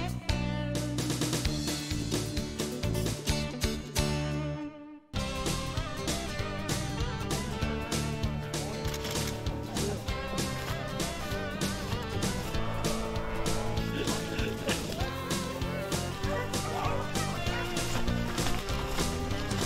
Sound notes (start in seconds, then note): 9.8 upbeat music; 15.7 dogs barking